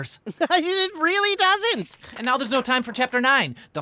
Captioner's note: laughs